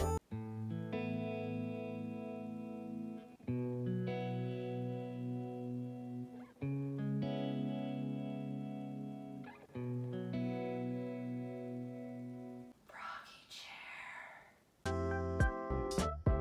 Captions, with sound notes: *Inspirational Music* *Whispers* Froggy chair